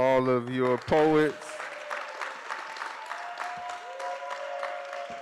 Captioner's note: cheering